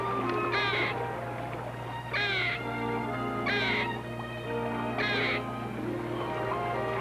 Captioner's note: squirrel chatter